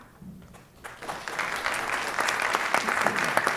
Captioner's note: applause